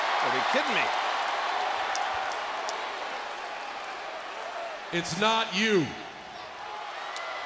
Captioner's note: applause